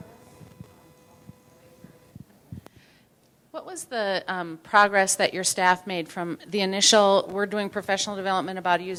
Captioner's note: with microphone